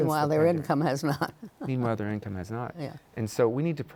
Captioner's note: chuckles